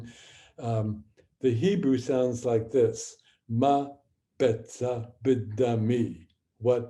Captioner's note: speaking hebrew